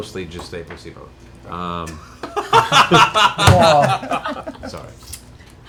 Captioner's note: laughter